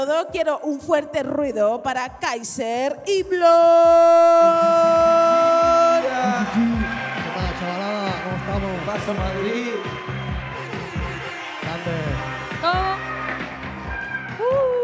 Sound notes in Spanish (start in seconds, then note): 6.1 Aplausos